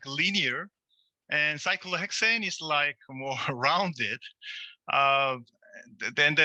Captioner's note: chuckles